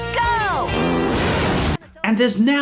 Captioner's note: flatulence; fire hissing